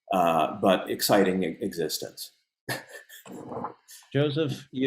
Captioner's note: laughs